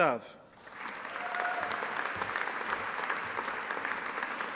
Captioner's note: audience applauding